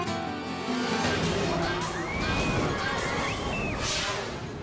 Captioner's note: people screaming